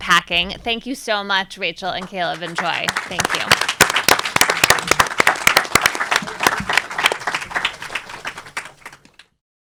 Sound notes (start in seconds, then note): 3.8 audience and panelists applauding